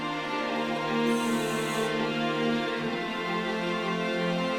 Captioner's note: air hissing